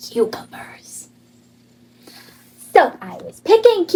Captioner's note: none